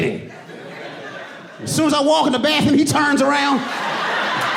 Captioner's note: audience laughing